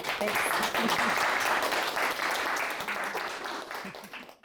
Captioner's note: applause